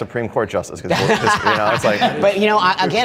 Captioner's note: laughs